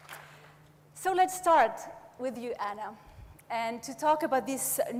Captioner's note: audience applauds